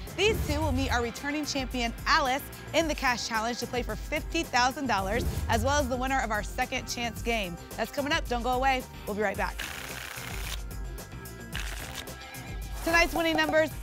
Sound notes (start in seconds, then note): 10.3 tickets shuffling